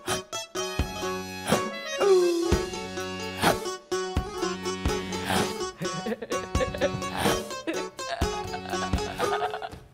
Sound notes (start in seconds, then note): 5.8 Sharik softly chuckling